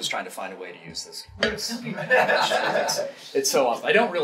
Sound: audience laughing

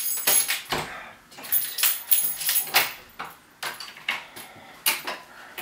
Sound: door opens and closes; key sounds

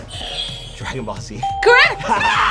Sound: bell rings; buzzer rings; laughs

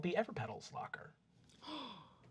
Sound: gasps

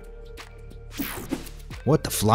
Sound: logo whooshing

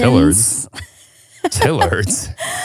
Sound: laughing

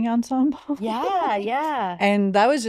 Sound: chuckles

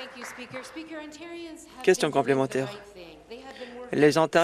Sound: some Applause

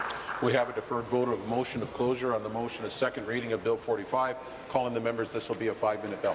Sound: applause

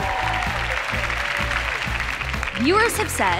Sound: cheers and applause

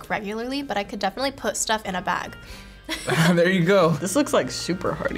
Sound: chuckles

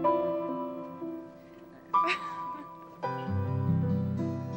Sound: Molly laughs

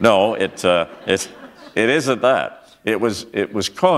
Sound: chuckle

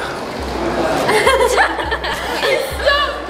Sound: laughing

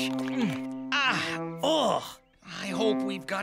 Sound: both screaming

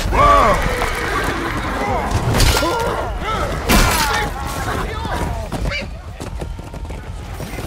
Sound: beautiful dying archer noises

